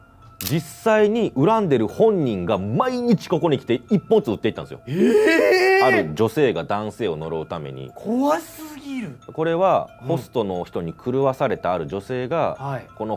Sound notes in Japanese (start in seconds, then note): 5.0 叫び声